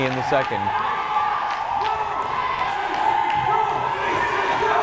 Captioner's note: crowd chanting